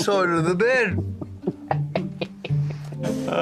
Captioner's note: laughs